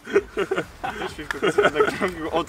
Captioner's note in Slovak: hehe, haha, hhh